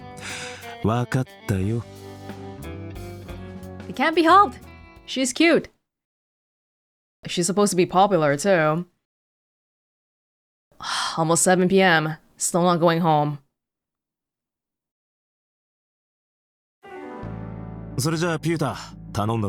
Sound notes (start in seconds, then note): 11.1 exhales